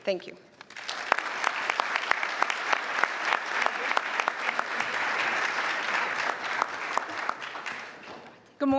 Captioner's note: applause